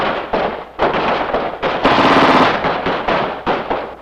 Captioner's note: gunfire; machine gunfire